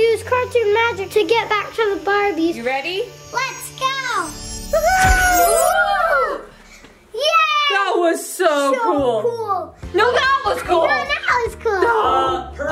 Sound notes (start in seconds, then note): 4.1 magically whooshing